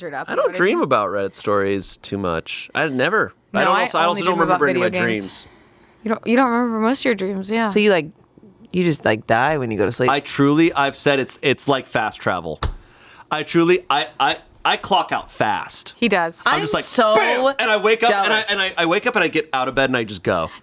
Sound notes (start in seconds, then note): none